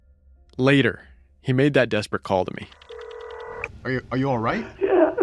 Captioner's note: phone rings